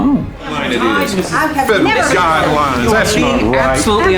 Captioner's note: yelling